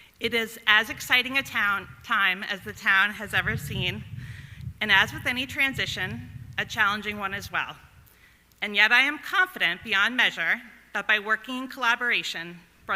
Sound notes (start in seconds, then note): none